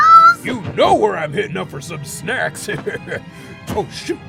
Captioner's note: chuckles